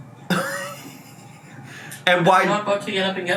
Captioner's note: laughs